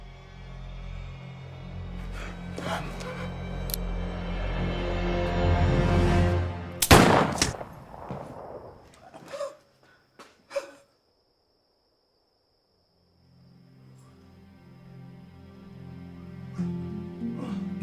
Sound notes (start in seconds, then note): 0.0 suspenseful music; 2.0 Chris gasping; 4.0 gun cocking; 6.8 gunshot fires; 13.1 soft tense music